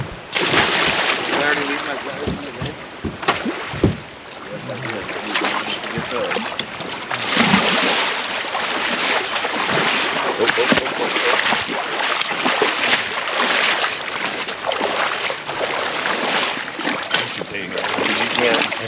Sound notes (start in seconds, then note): 0.2 splashing; 3.7 splashing